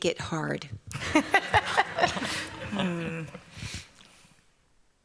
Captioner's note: laughter